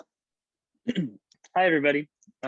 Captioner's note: clears throat